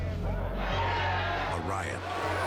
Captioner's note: prisoners shout